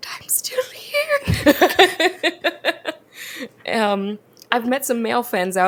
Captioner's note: both laugh